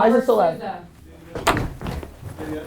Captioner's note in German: Voice-over; Thudding